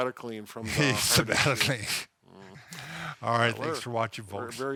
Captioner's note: laughs